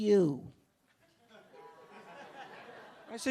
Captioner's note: a few audience members laughing